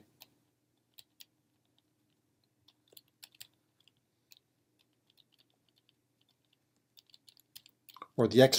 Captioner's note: typing